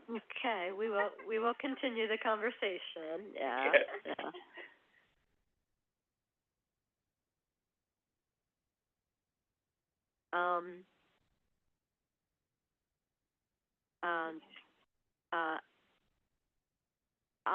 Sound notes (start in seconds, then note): 3.5 silence